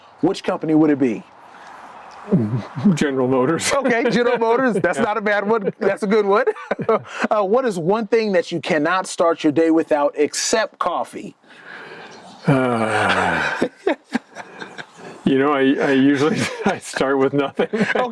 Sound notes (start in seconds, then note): 11.5 sighs; 12.4 chuckles